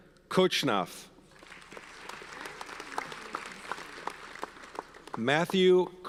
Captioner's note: audience applauds